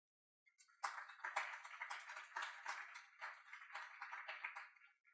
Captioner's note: audience clapping